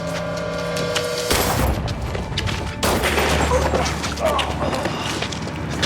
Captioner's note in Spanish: Golpes; Disparos; Quejidos